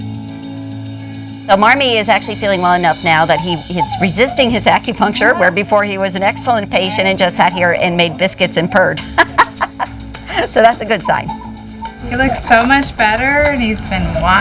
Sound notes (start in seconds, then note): 9.2 laughing